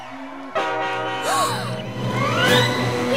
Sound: gasping

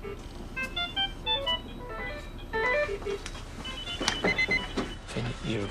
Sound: machines start beeping

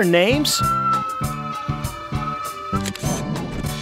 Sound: SFX: Train whistle; SFX: Camera Shutter

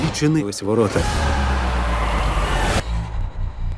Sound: soldiers shout

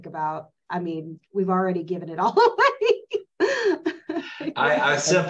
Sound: laugh

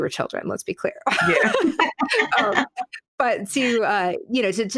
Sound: laughing

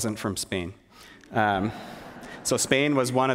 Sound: laughter

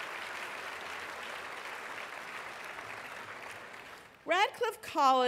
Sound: applause

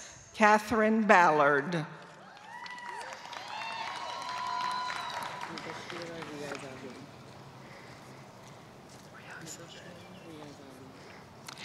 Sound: applause

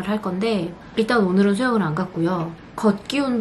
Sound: confident

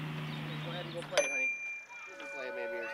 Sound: bell ding

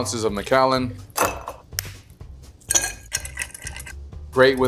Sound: spoon tapping; ice clinking

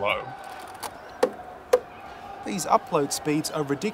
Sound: crowd cheering

